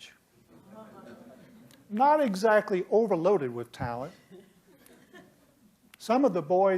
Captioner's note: laughter